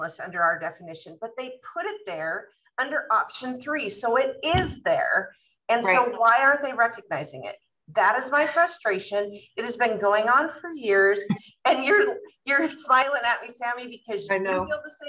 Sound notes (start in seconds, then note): 4.4 thump sound